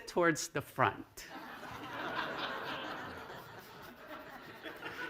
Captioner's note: laughter